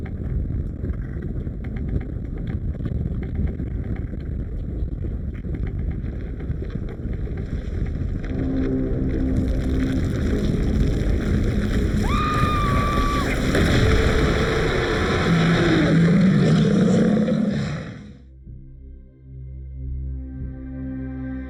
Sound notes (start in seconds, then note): 8.5 ominous music; 9.4 ground rumbling; 12.0 Gina screaming; 13.8 ground bursting; 13.8 shark roaring; 18.1 brooding music